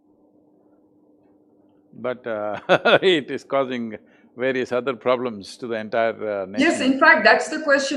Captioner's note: laughs